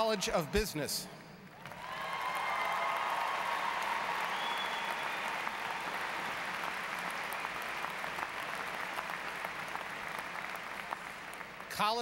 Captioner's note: applause